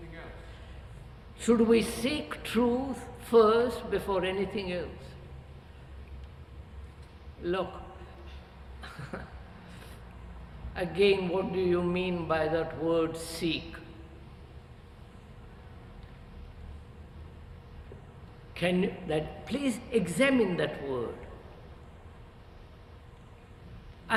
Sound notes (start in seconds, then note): 8.8 laughs